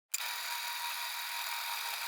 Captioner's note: the sound of an old school threatre projector spooling